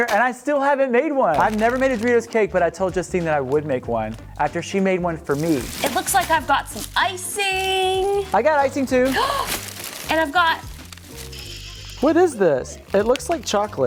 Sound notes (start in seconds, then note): 9.4 gasps